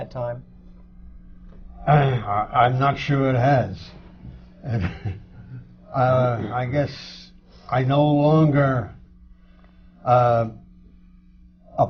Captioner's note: laughs; laughter